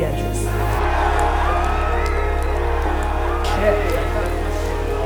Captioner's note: audience cheers, applauds